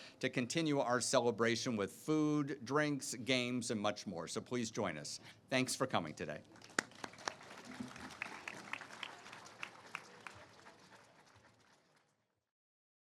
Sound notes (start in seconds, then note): 6.5 all applauding